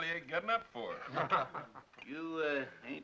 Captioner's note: Owen chuckles